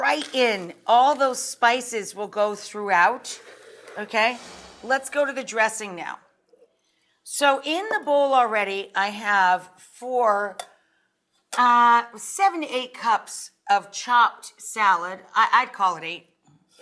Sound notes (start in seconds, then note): 3.0 bowl sliding; 4.0 screen whooshing